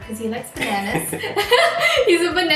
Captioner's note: laughs